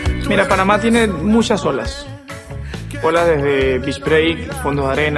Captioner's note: speaking Spanish